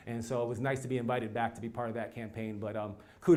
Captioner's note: none